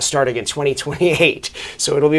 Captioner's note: chuckles